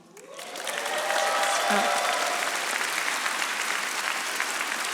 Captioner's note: audience applauding